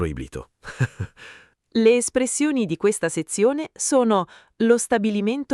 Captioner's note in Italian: Haha